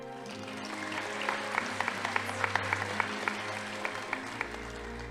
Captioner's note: audience applauding